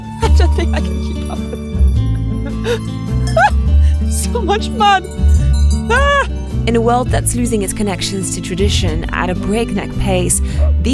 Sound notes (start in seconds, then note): 0.2 laughs; 5.9 exclaims; 5.9 sheep bells clanging